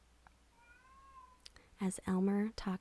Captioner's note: cat meows